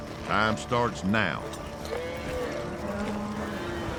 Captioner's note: cattle mooing